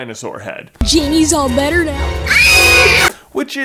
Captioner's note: screams